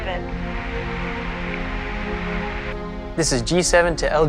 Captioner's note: static